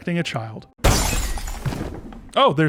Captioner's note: glass shattering sound effect